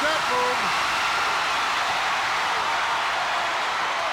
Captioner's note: crowd cheers